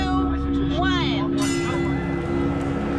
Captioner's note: bell dings